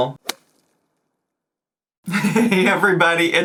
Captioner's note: object whips